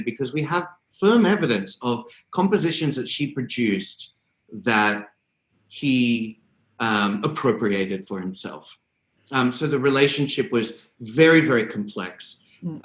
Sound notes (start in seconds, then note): none